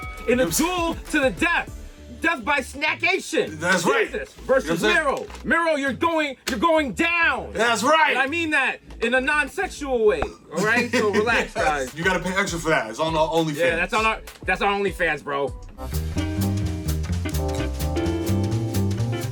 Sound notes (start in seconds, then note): 0.0 boxing ring bell rings; 10.1 pops; 10.5 Mero laughs; 16.1 lively jazz music